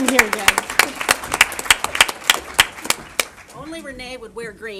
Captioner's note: applause